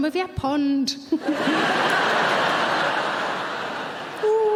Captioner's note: audience laughing